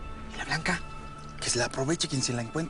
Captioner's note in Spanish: Susurra